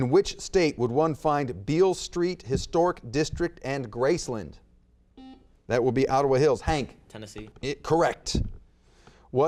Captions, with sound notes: In which state would one find Beale Street Historic District and Graceland? (buzzer beeps) That would be Ottawa Hills, Hank. - Tennessee. - Correct.